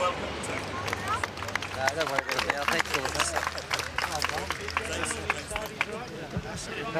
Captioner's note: applause